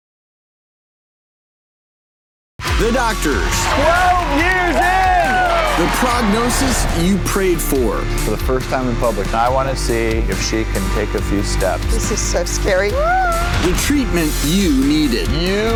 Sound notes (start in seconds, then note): 2.6 applause; 3.5 upbeat music